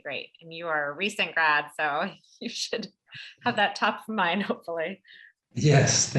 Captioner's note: laugh